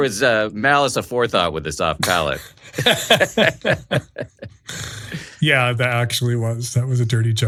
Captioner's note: laughing